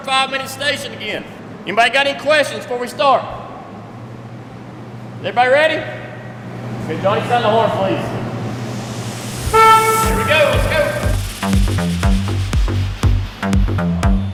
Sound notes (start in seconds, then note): 9.3 horn honks; 12.1 upbeat music